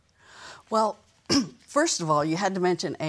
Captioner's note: coughs